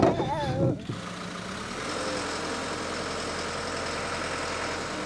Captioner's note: motor whirring